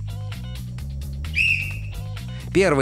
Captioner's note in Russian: свисток свистит